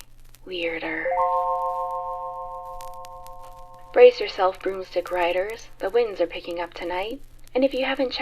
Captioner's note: chime